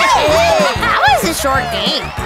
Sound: cheering

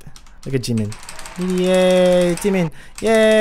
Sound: cheering

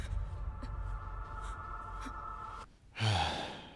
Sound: sigh

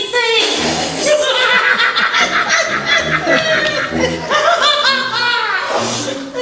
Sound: laughter

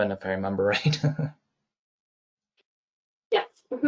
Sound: chuckles

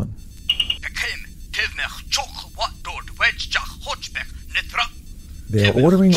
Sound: Klingon voice shouting on communicator

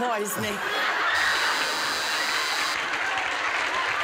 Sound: laughter; buzzer

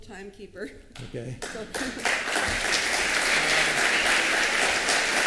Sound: applause

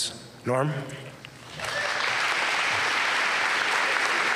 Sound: applause

